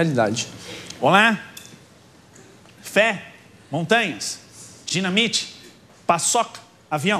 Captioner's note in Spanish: imita a Sérgio Chapelin